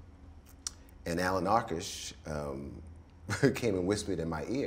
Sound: laughs

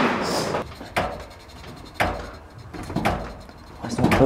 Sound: banging sounds

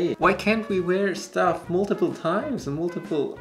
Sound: none

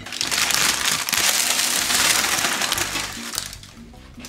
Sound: paper crackling

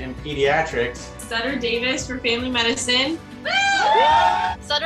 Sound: cheers

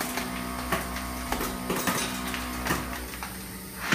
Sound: machine stopped

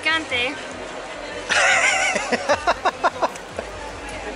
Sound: laughter

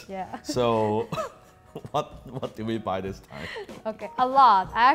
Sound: laughs

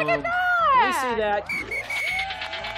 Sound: whistle, applause

